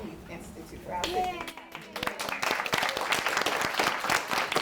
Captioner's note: audience claps